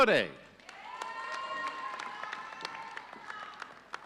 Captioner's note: audience cheering